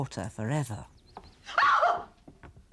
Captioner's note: shriek